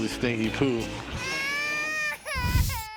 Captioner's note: baby crying